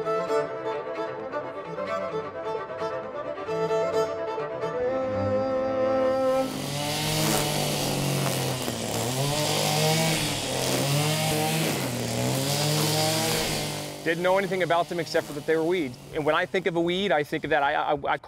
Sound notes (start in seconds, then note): 6.4 machine whizzing